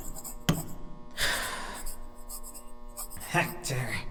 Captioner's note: cast takes a breath